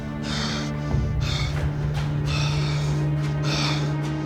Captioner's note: Rhydian snarling; panting